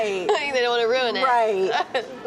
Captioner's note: laughs